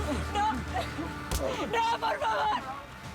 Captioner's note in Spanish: puñetazo; golpes